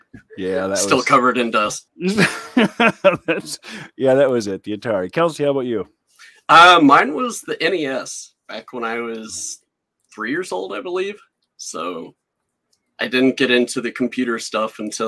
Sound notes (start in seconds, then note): 2.0 laughing